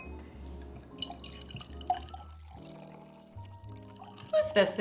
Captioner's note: wine sloshing